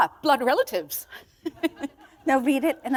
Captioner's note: laughter